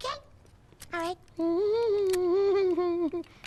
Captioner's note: humming